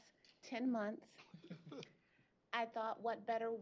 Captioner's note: chuckle